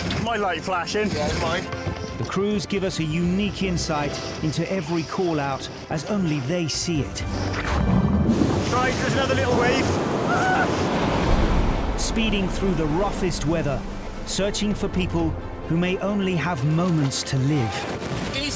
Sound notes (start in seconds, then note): 8.0 water trickles and gurgles; 9.5 distressed screams; 11.0 waves crashing